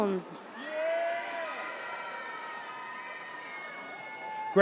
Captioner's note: audience cheers